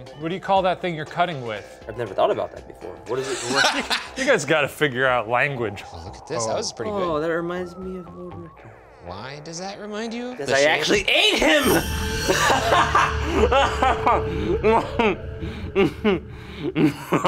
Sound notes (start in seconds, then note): 3.3 laughs; 11.2 laughs